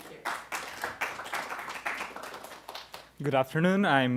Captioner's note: applause